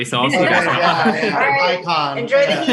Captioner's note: laughs